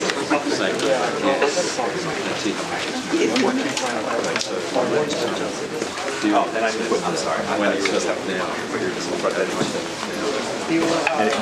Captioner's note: background chatter